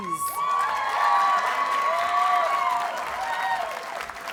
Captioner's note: audience cheers and applauds